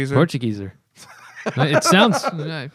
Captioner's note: laughter